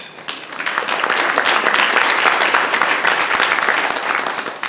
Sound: audience applauding

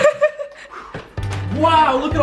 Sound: laughing; whooshing breath

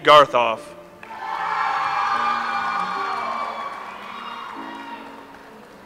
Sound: audience applauds

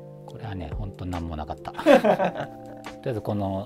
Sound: laughing

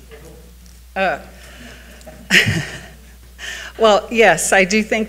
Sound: speaking distantly

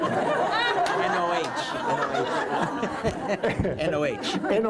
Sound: laugther

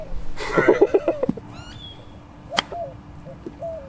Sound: laughs

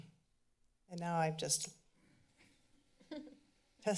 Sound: laughter

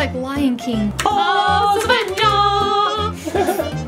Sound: laughing

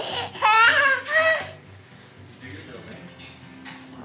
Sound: laughing

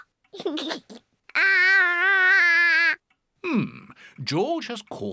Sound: giggles

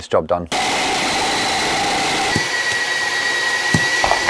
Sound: drill whirs

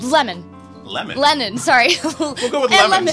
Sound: laughs; chuckles

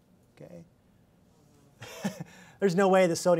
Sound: laughs

